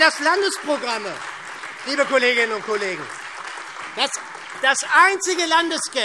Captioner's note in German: Beifall SPD, vereinzelt Freie Demokraten, DIE LINKE und AfD